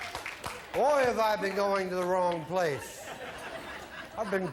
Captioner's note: laughter